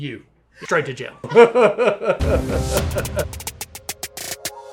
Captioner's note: laughs